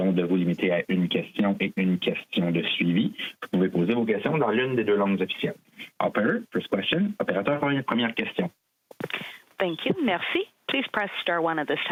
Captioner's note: speaking French